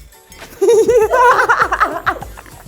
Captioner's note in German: Lachen